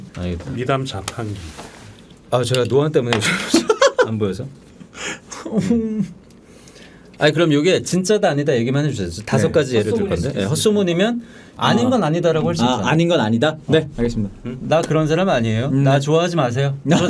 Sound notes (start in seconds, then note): 4.9 tearful